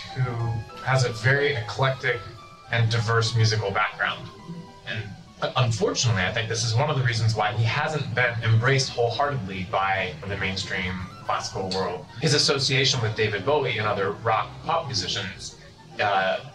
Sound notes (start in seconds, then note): none